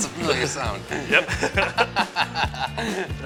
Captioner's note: laughter